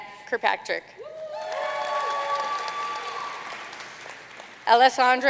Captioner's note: audience cheering and applauding